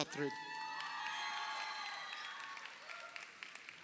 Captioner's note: crowd cheering